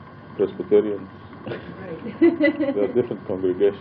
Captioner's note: laughing